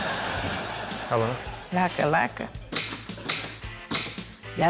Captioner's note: typewriter clacks